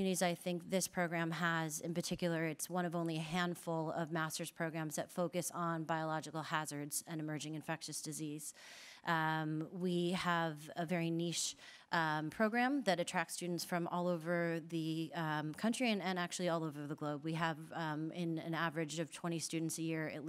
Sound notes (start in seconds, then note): none